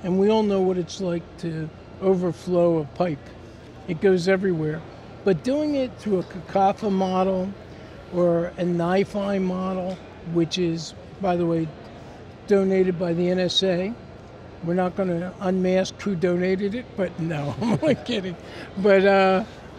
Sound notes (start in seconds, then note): 17.4 laughs